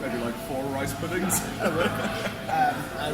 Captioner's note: laughs